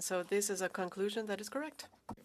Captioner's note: speaking French